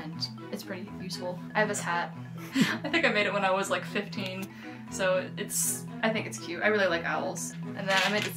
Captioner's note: laughter